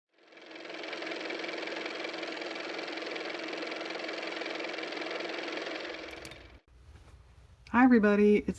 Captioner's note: car motor